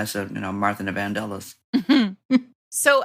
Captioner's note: laughter